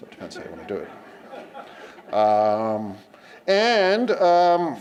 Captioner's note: laughter